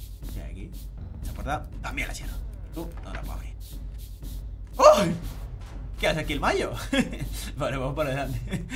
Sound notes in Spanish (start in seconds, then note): 4.7 Sorprendido